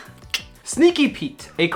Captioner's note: clicks tongue